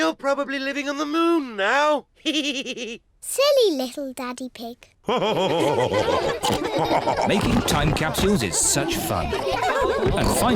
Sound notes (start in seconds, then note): 2.2 chuckles; 5.1 all laugh